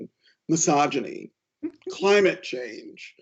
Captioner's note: laughs